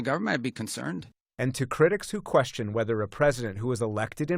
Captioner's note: voice-over